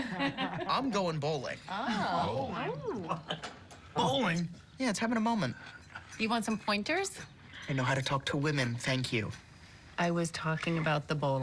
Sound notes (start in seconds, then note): 0.0 laughter